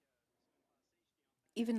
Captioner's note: speaking French